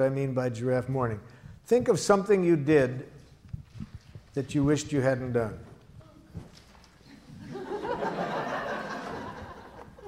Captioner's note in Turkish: Gülüşmeler